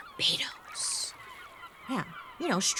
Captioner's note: seagulls squawking; waves trickling